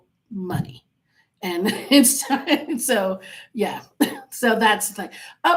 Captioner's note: laughing